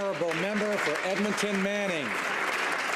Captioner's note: applause